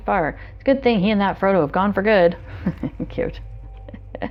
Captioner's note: laughs